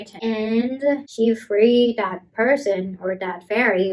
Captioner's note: none